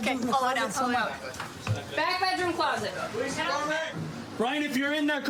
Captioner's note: none